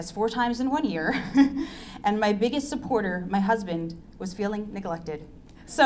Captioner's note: laughs